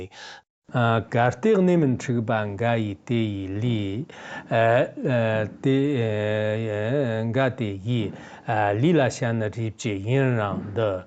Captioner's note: giving oral transmission in Tibetan